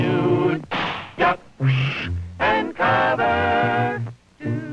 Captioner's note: humming